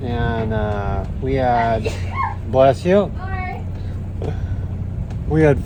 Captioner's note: sneeezes